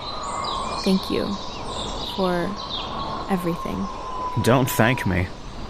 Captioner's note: softly, almost shyly